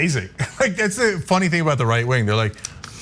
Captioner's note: laugh